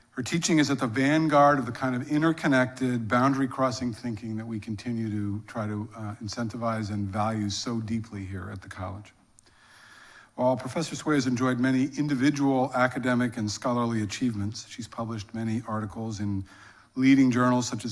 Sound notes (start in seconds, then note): none